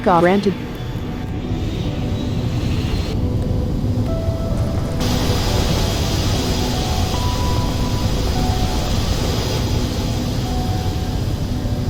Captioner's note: full Throttle Engine